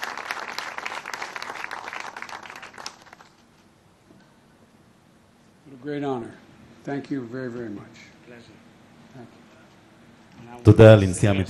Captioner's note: applause